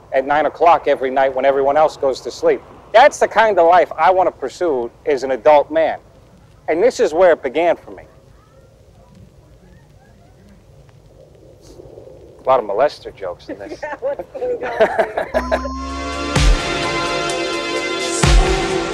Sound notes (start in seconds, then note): 13.4 lady laughing offscreen; 15.1 laughing; 15.3 slow music